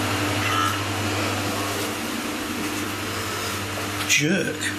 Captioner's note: electronic voice